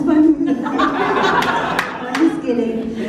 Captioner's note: laughter